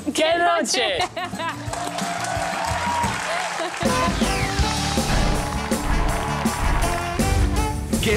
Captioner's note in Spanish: Aplausos